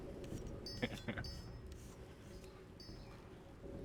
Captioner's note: laughing